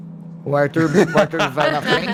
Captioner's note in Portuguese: risos